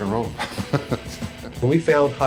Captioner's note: chuckling